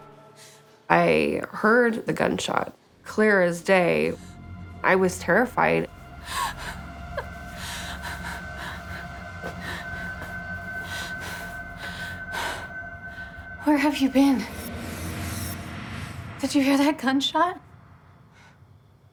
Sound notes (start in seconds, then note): 6.2 Whitney sobbing